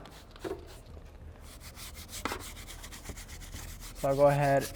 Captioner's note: scrubbing